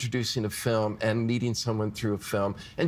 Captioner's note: none